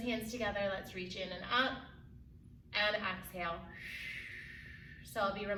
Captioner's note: exhales deeply